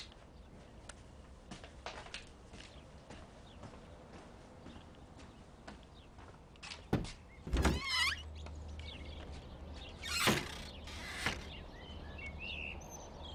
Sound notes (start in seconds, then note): 7.4 door bangs